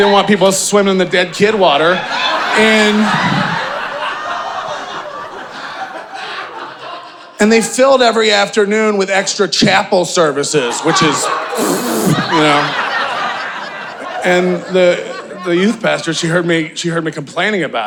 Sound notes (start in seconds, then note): 2.5 audience laughing; 11.0 spitting; 12.9 audience laughing